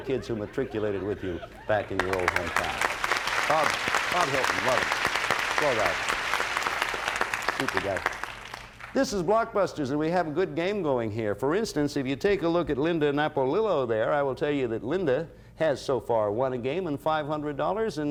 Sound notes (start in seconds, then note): 1.9 applause